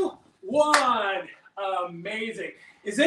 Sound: claps

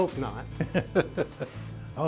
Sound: laughter

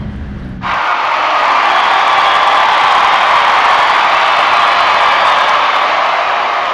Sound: crowd yelling

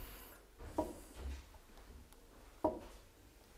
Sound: dull knocking

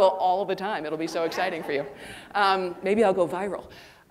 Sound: audience laughing

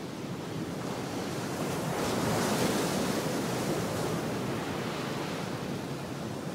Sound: sound of waves crashing

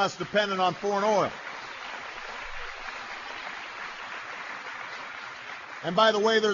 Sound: applause

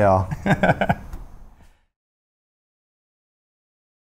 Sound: laughing

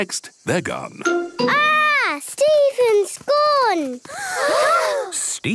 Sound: gasps

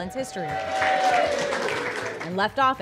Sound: cheers and applause

